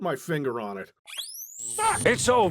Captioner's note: electroshock